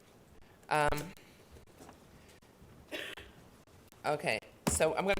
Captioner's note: someone coughing